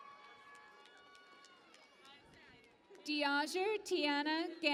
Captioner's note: cheering and Applause